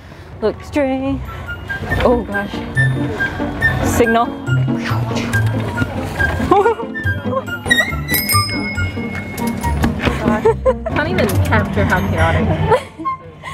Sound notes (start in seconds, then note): 0.3 singing; 4.6 whooshing noises; 6.0 panicked noises